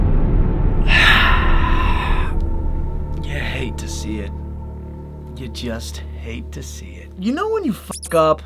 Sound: sighs

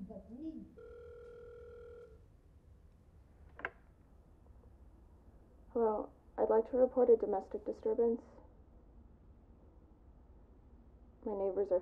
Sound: phone rings

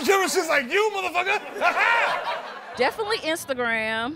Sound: laughs

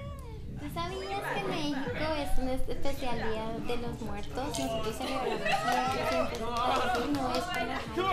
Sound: Spanish

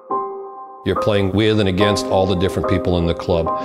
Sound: voiceover

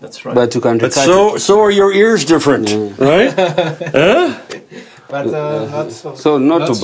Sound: all chuckle

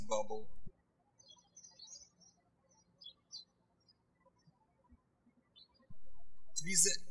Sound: birds chirping

